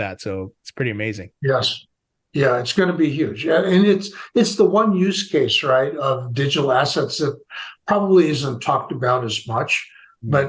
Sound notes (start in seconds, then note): none